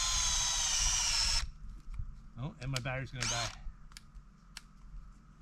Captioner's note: drill whirring